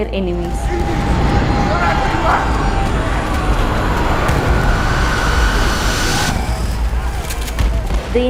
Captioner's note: war sound